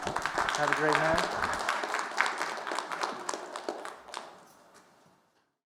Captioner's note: applause